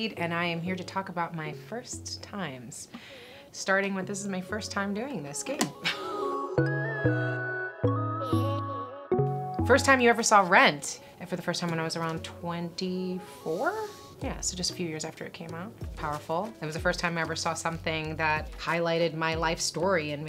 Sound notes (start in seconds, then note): 5.8 laughing; 6.8 chill music